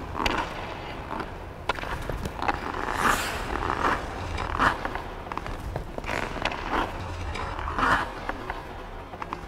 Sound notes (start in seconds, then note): 3.3 hockey stick scraping; 3.3 skates rubbing